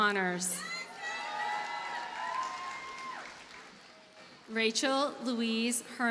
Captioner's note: audience cheers and applauds